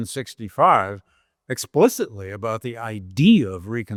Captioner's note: none